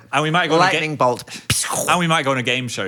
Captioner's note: mimics lightning cracking